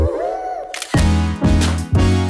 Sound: camera shutter

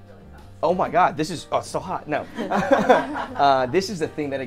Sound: laughing

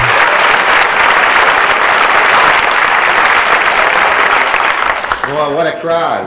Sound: applause

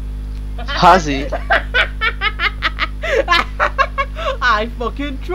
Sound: laughs

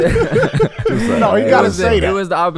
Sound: all laughing

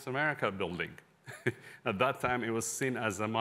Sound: laughter

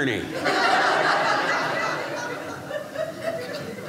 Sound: audience laughing

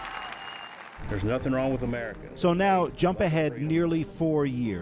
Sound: cheers and applause

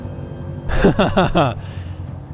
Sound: laughs

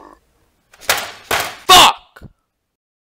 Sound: slams desk

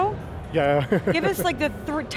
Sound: laughs

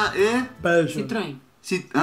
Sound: brazilian pronunciation

